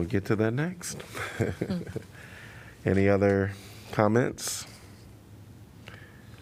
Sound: laughter

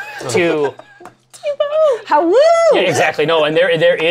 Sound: laughter; howls

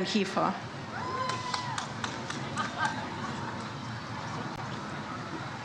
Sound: audience applauds

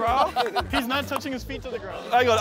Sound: contestants laughing

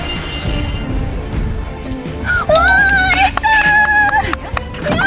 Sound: applauding

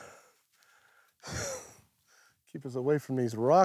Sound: laughs

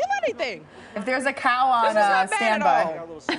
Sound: laughter

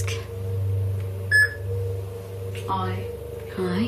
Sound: loud beeping

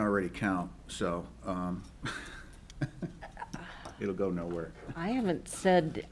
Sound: laughs

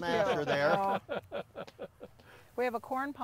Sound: laughing

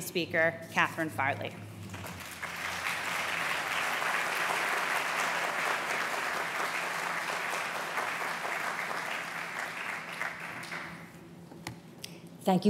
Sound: applause

